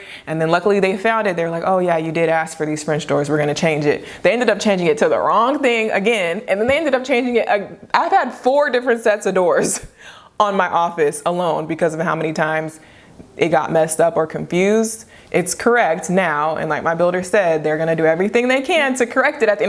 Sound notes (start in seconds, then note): 10.5 chuckles